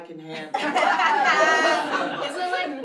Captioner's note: laughter